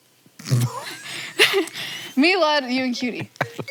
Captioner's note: Hank laughs